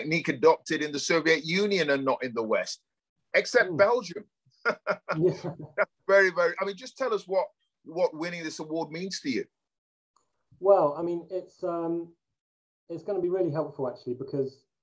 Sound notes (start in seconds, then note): 4.6 laughs